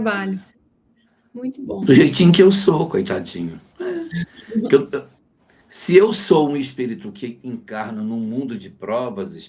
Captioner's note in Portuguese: risadas